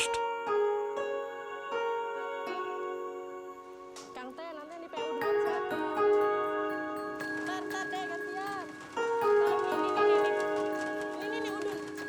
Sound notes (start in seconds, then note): 0.1 ethereal instrumental; 4.1 speaking in foreign language